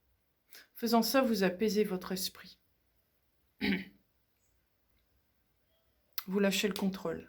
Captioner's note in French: raclement de gorge